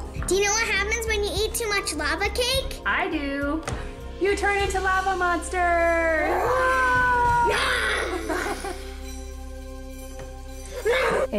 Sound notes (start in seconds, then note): 6.6 growling; 7.8 laughs